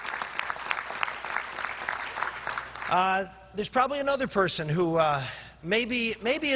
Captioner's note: applause